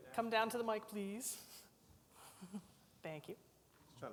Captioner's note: laughs